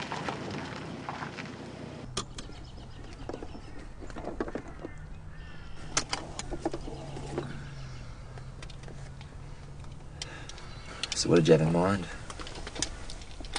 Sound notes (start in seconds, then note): 3.0 birds twittering